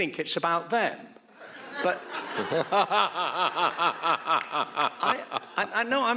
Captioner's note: audience laughs; laughs